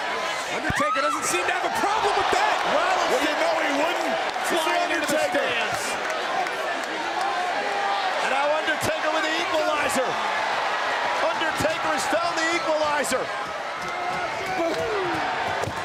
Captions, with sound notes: (announcer shouting) Undertaker doesn't seem to have a problem with that! (crowd shouting) Well, you know he wouldn't! Flying into the stands. And now Undertaker with The Equalizer! Undertaker has downed The Equalizer!